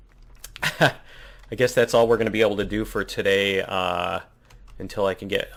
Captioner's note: laughs